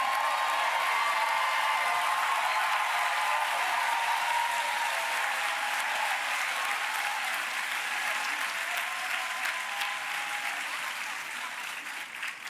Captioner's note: applause